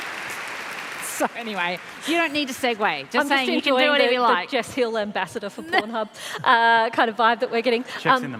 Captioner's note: applause